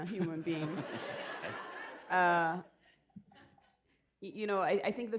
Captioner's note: laughter